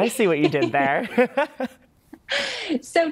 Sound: laughter

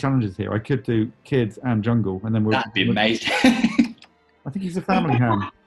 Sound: laughs

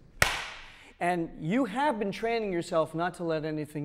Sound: handclap

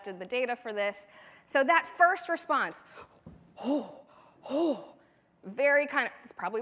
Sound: hoo-ing

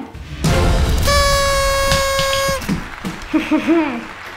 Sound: horn blowing

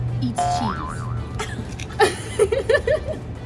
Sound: boing; Saniyya and Demi laugh

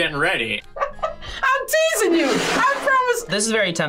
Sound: laughs

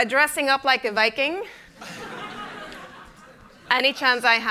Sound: laughter

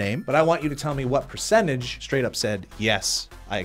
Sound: none

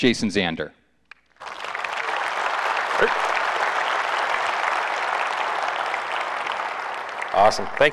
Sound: applause

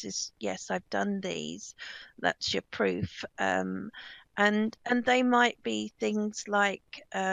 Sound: none

